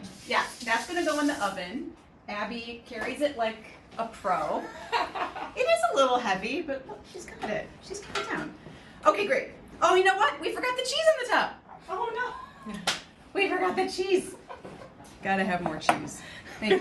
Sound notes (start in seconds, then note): 4.6 laughs; 12.6 laughs